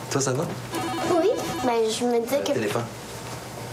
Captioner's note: Téléphone